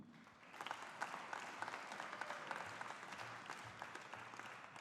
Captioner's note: audience applauding